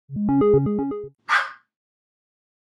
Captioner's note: start sound, dog barks